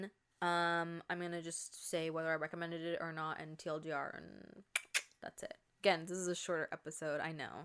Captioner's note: tongue click noise